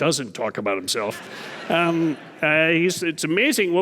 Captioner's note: audience laughing